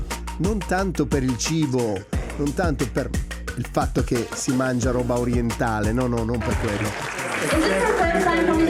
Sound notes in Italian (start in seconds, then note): 6.4 Applauso; 7.0 Risate